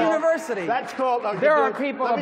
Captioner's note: applause